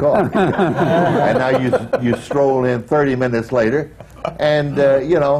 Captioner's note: laughter